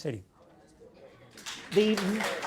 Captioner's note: audience applause